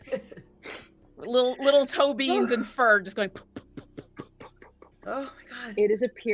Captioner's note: imitates thumping